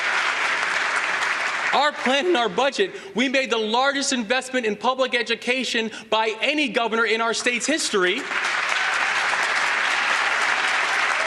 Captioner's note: applause